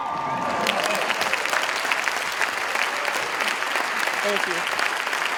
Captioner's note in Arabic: تصفيق